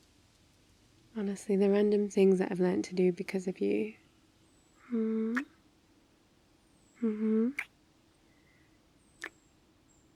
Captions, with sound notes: honestly, the random things I've learned to do because of you *mwah* mmhmm *kiss* *kiss*